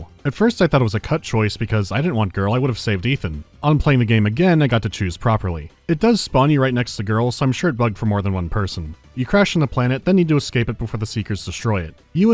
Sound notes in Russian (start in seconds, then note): none